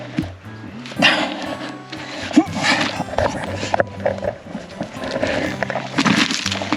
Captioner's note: grunting; rocks crunching